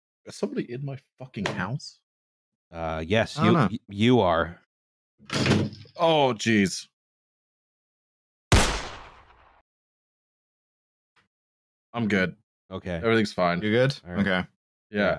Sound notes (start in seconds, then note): 5.3 door slam; 8.5 gunshot